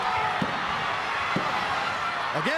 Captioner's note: crowd cheering